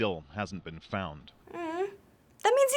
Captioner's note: sympathetically